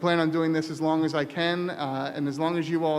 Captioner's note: voiceover